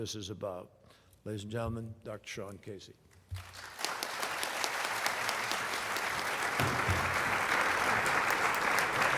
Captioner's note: applause